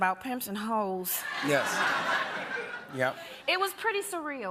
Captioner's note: laughter